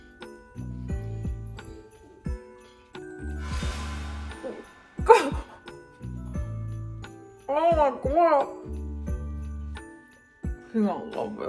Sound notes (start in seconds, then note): 3.4 dramatic sound effect rattles; 5.1 laughs